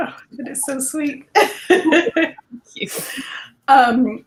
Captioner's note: laughter